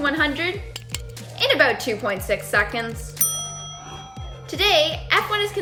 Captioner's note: ding